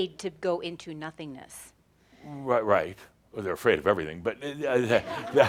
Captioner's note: some chuckles